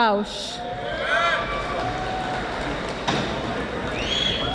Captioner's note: audience applauding